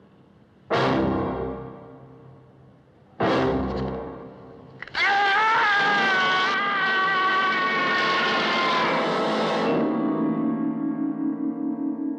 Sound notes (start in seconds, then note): 4.8 screaming